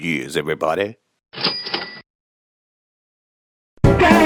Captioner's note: cash register chiming; upbeat jazz music